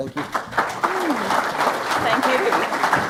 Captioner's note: audience clapping